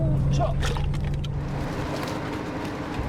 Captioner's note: Sound of anglerfish dropping